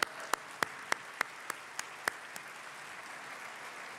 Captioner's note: applause